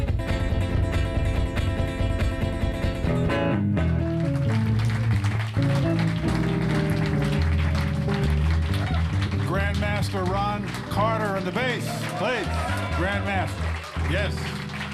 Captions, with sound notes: (audience applauding) - Grandmaster Ron Carter on the bass. Bass, grandmaster. Yes.